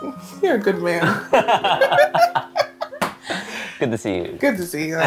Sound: group laughing

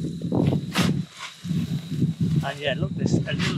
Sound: wind blowing

